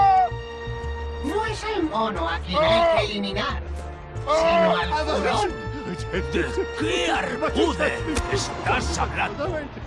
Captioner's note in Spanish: risas